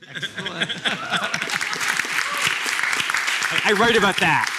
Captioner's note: applause